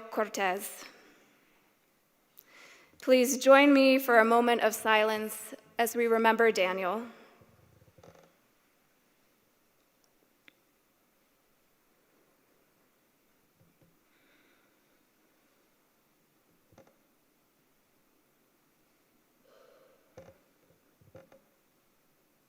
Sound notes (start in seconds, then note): 8.2 silence